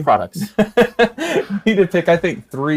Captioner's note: both laughing